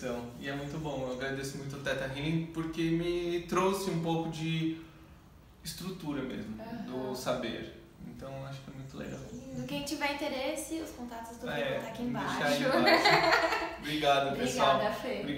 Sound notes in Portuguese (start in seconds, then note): 12.7 risos